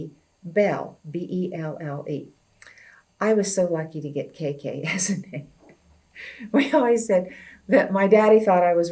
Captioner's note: laughs